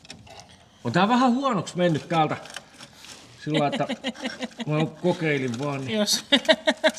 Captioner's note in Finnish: naurua